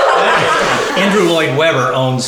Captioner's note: laughing